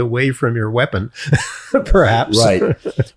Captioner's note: chuckles